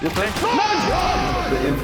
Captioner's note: FaZe Clan cheering